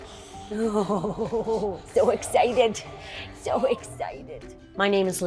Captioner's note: laughs